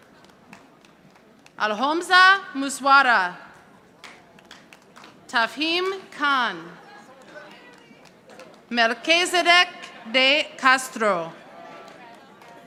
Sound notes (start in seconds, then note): 3.9 audience applauding